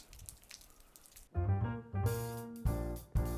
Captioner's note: rainfall